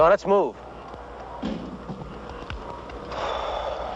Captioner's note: sigh